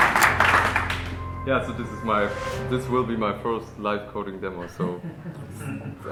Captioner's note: applause; laughter